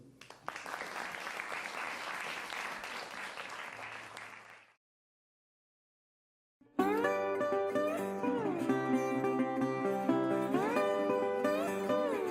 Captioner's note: applause